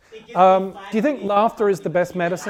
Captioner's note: distant chattering